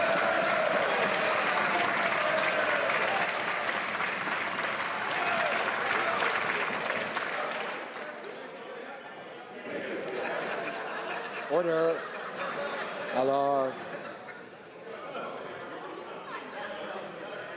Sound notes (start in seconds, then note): 2.4 some Applause